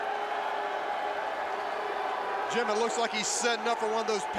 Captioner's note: crowd cheering